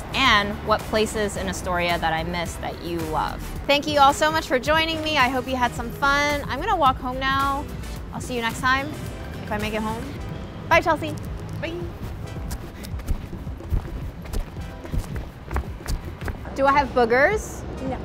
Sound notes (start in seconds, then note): 12.5 footsteps shuffling